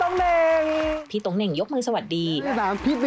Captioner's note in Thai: เสียงเอฟเฟกต์ปรบมือ